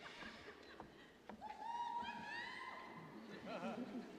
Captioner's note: cheers